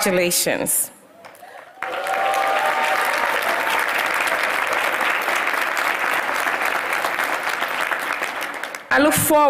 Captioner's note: applause